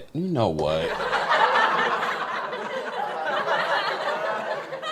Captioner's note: laughter